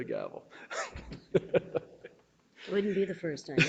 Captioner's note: laughing